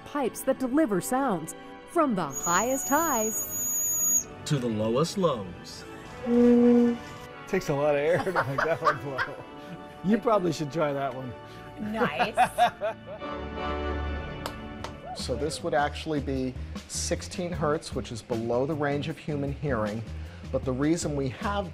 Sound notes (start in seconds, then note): 11.8 laughter